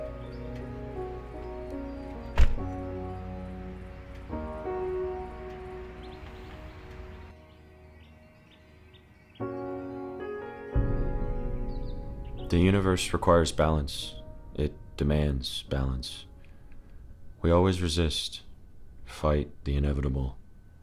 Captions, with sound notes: (door shuts) - The universe requires balance, it demands balance. We always resist, fight the inevitable,